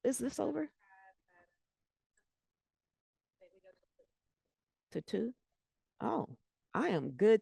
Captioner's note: breaking voice